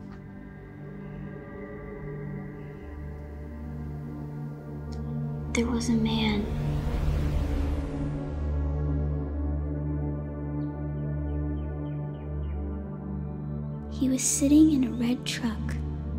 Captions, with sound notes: (ominous music) - There was a man. (atmosphere whooshing) He was sitting in a red truck,